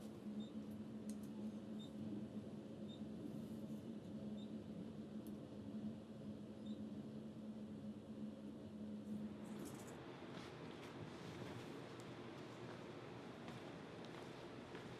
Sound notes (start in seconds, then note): 1.7 elevator beeping